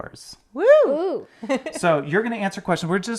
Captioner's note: hooting